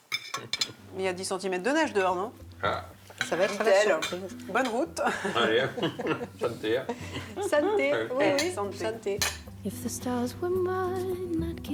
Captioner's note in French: rires